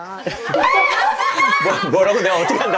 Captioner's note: chills, shock